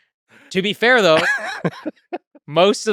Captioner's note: Lex laughing